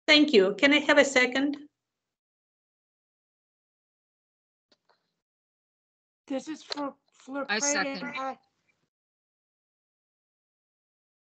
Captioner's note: multiple voices